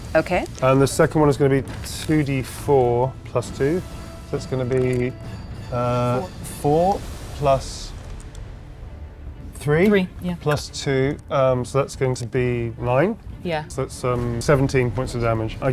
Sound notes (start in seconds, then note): 5.1 die rattles; 7.9 die rattles